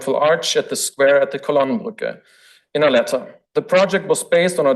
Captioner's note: foreign language